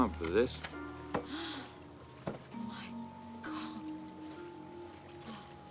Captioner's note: Coquina gasps